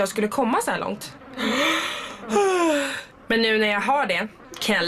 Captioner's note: yawns